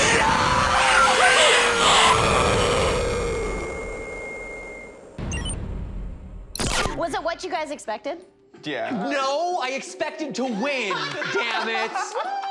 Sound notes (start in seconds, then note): 1.6 deathly animatronic noises